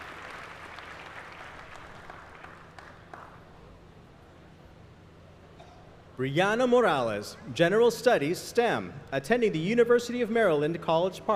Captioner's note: applause